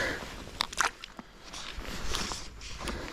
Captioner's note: sighs; splash